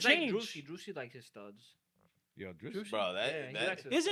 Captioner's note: speaking In Spanish